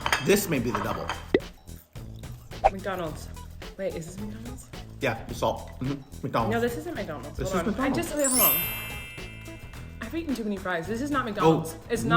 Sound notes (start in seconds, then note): 8.1 sound of chimes